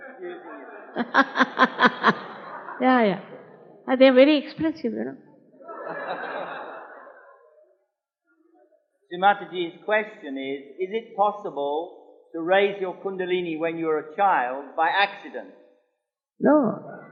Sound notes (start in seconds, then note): 6.2 laughs